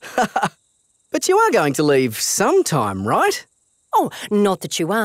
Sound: laughs

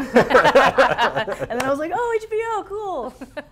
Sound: all laughing

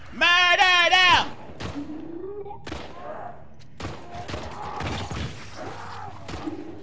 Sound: guns blasting; zombies groaning

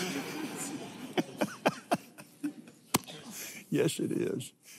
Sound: laughs

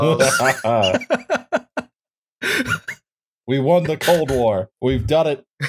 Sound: laughter

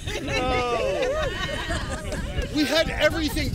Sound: crowd laughter

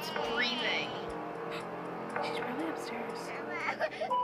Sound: gasp; baby whining

